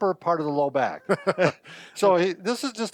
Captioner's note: chuckling